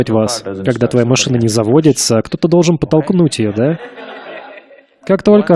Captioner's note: Смех